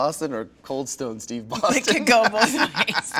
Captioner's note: laughing